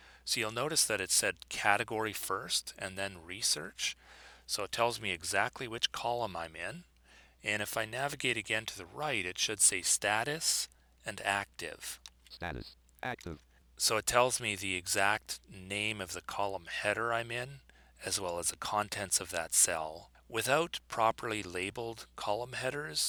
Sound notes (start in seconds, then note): 12.0 synthesized speech